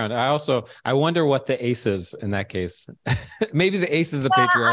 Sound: chuckles

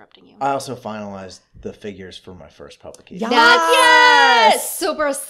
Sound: celebration, shouting, woohoo!!

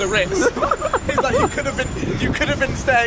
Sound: laughing

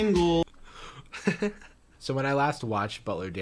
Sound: laughs

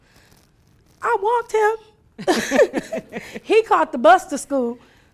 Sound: laughing

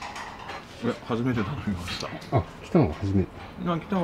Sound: laughs

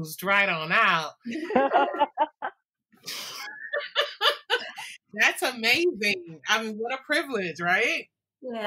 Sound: laughter

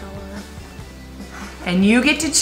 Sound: huffs

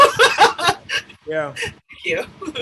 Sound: laughs

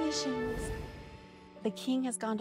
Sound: whoosh

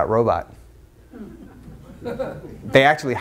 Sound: audience laughs

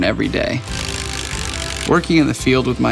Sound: drill buzzing

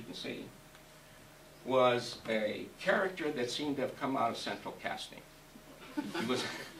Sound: laughs

